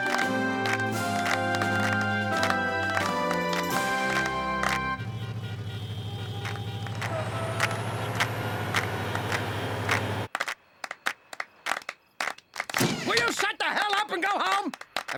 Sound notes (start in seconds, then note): 5.0 car horns honking; 7.1 clapping; 10.8 clapping continues